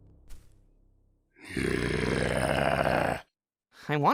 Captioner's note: groany noise